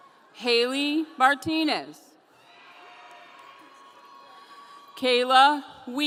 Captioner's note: audience cheering